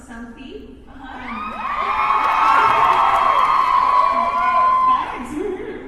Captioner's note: audience cheers